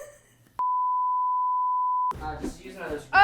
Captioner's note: giggling; tone beeps